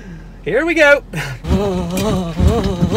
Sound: gasps

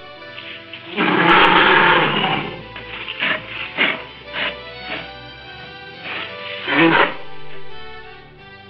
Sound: bear eating effect

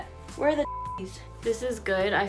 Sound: beep

